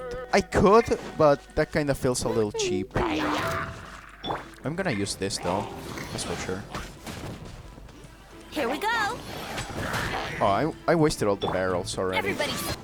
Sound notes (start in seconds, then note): 3.0 Hilichurls growl at Amber and the Baron Bunny; 7.0 explosions; 9.1 More explosion and Hilichurl sounds